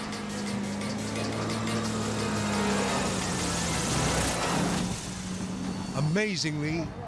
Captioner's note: suspenseful music; plane engine rumbling